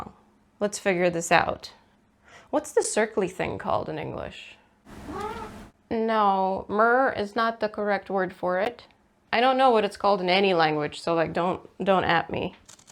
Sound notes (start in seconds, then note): 4.9 cat goes mrrrr; 12.7 paper cutting noises